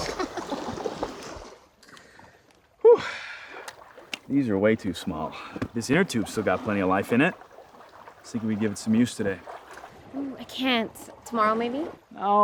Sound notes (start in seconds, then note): 0.1 Summer laughs; 2.8 sighs